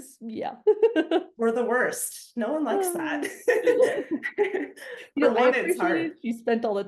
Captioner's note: laughs